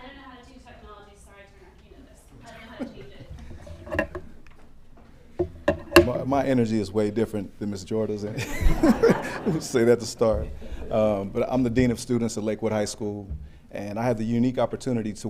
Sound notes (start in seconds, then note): 3.6 all laughing; 8.3 all laughing